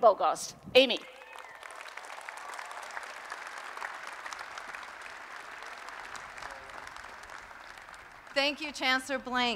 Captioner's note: applause